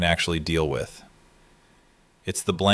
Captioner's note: thoughtful